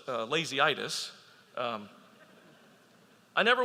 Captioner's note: audience laughing